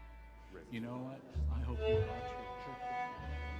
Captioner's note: gala guests conversing